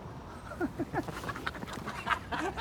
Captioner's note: chuckling